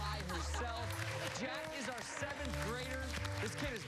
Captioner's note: cheers and applause